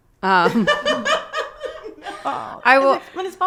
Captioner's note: group laughing